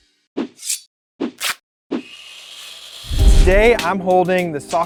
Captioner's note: blade whooshing